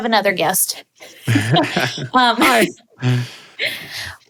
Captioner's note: laughing